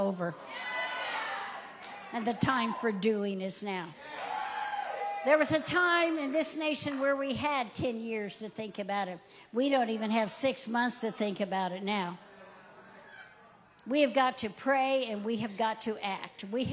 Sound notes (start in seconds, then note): 4.0 audience cheering